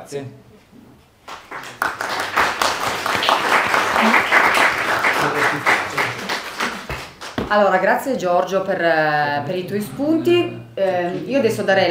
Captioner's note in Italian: Applauso